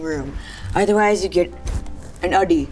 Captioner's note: speaking in foreign language